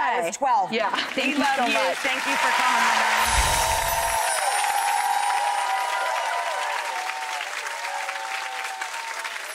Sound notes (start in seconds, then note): 2.0 audience cheers; 3.2 bells chime